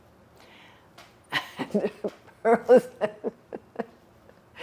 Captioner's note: laughing